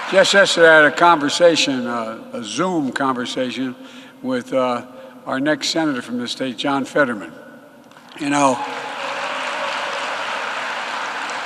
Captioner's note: applause